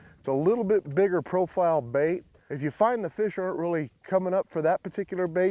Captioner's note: none